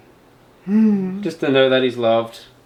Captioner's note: humming